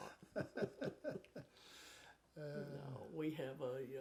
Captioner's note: chuckle